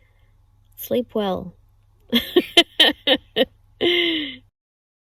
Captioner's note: cackles at tired self